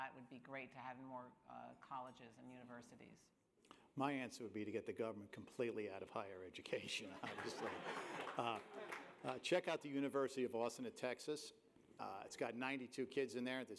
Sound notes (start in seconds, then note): 7.1 laughter, applause